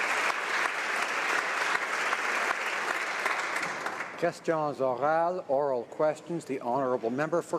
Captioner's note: applause